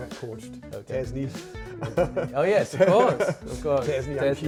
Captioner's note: chuckles